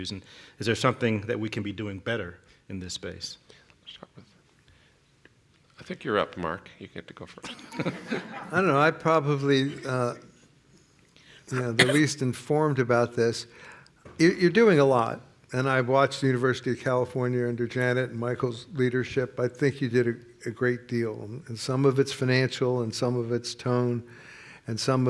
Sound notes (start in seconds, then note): 7.4 laughter